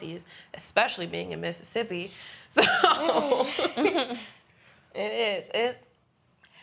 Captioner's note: laughing